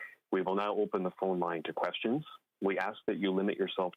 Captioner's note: speaking French